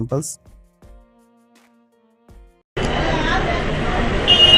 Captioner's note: crowd noise